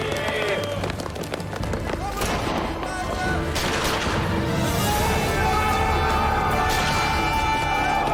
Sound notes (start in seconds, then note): 1.9 gunshots and yelling